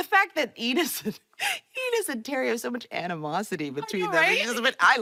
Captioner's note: laughing